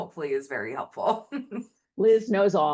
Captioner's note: laughing